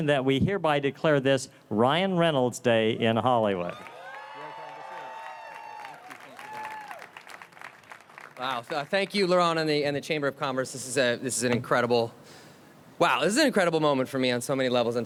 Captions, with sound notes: that we hereby declare this Ryan Reynolds Day in Hollywood. (attendees cheer) - Wow. So thank you Lauren and the Chamber of Commerce. This is an incredible... wow. This is an incredible moment for me on so many levels.